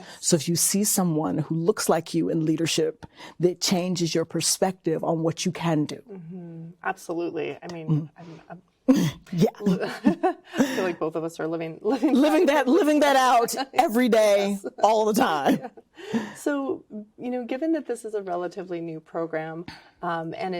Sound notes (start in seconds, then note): 9.2 both laugh; 9.2 chuckling